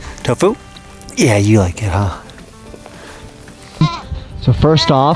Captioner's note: goats bleating